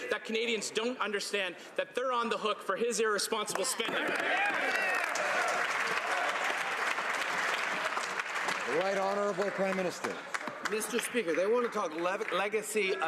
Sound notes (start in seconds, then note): 7.6 some Applause